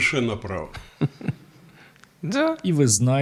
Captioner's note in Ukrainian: сміться